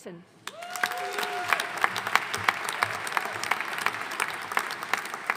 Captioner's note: audience cheering and applauding